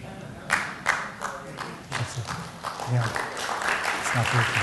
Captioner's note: applause